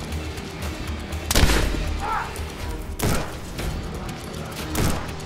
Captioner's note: gunshots blasting